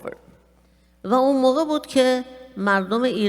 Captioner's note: speaking persian